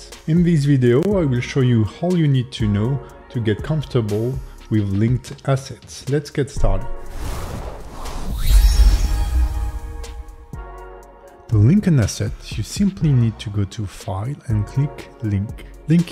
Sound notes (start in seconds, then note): 6.4 tranquil music; 6.8 screen whooshing